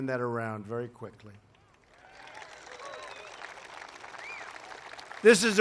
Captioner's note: applause